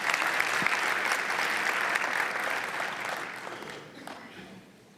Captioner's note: applause